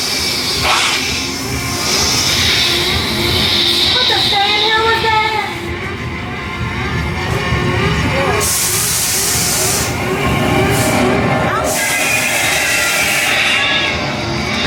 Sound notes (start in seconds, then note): 7.0 alarm sounds